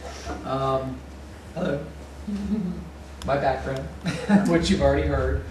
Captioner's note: laughter